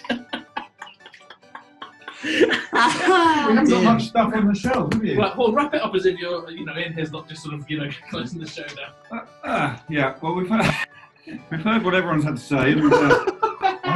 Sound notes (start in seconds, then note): 0.0 laughing; 9.0 groans; 10.4 laughs; 12.5 laughing